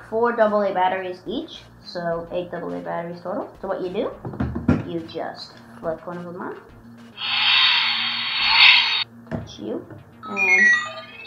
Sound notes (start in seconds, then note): 7.1 engine revving